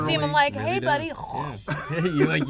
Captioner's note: laughs; hocking noises